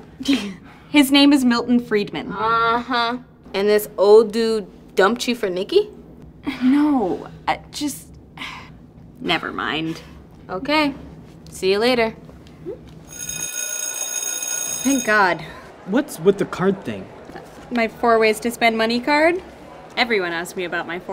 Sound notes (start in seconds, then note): 13.1 school bell rings